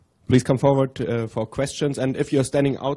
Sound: voiceover

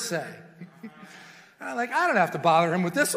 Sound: congregation murmurs; preacher chuckles

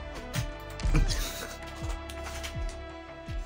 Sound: goofy ahh giggle

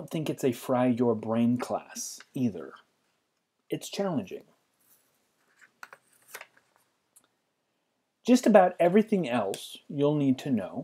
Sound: pause

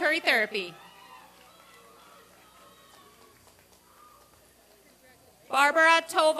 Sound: applause and cheering

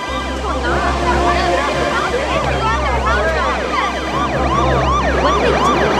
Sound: sirens screeching

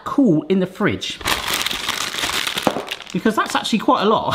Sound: bag rustling

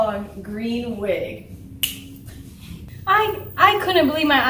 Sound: snaps fingers

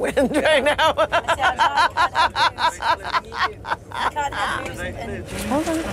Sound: manic laughter

